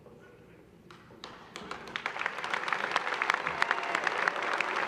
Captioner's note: applause